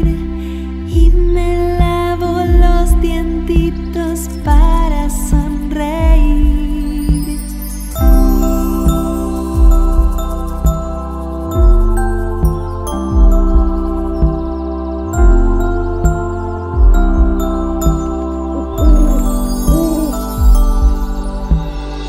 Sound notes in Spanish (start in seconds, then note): 7.6 Música de cuna; 7.6 Sonido de lechuza